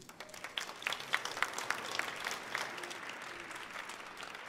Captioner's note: audience clapping